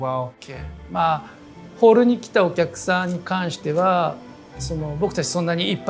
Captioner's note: speaking Japanese